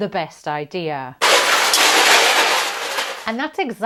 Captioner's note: metal crushing